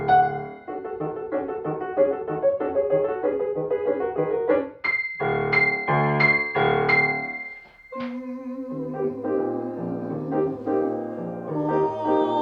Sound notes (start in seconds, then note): 0.0 quirky piano chord; 0.0 uptempo piano music; 5.0 quirky piano chords; 7.9 all vocalizing